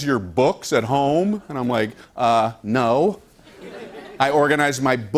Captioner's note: laughter